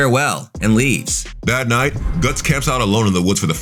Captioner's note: air whooshing